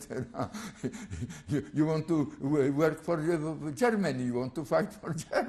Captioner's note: laughs